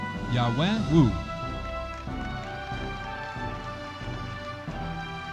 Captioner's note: audience appluading